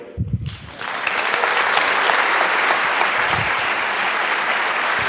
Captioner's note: applause